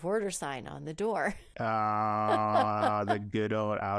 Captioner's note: laughing